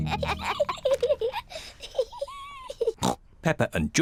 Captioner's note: both laugh; snorts